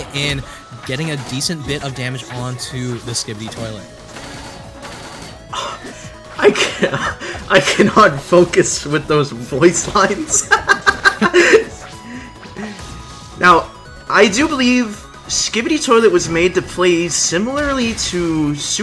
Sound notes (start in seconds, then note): 6.4 chuckles; 10.0 laughs